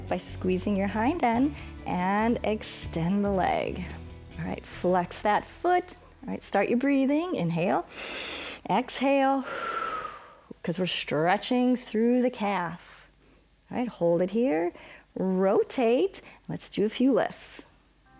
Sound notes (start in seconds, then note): 7.9 exhale; 7.9 inhales